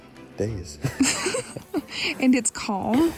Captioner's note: both laughing